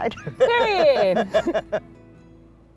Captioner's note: laughter